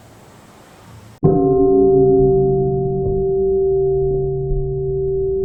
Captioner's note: sound of wooden fish